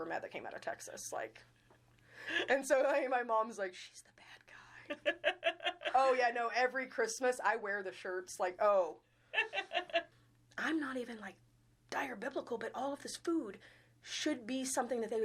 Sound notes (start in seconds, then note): 2.3 chuckling; 4.8 laughing; 9.3 laughing